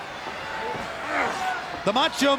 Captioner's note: wrestlers grunting